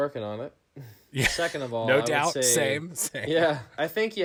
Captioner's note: laughing